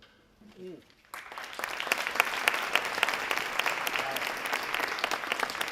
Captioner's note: audience applauding